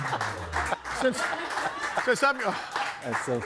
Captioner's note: crowd applauding